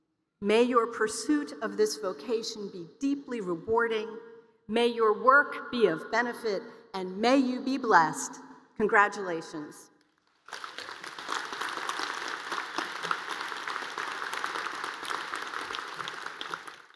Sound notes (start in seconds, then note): 10.2 applause